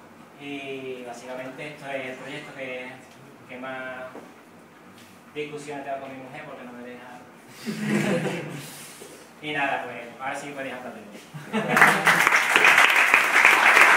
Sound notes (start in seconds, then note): 7.6 laugh; 11.4 laugh & applause